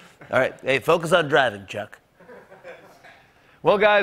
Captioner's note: laughter